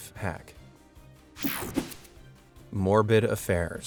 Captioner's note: air whooshing